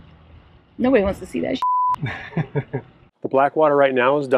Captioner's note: beep